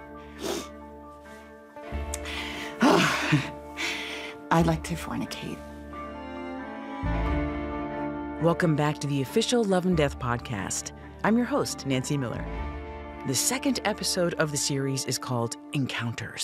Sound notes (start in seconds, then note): 0.3 betty sniffles; 2.2 betty sighs hoarsely